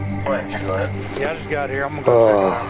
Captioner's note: police radio static